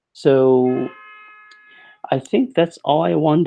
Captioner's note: car horn honking